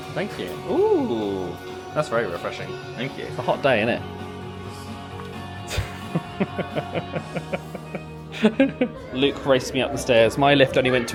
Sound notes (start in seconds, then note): 5.6 upbeat music plays in background; 5.6 laughs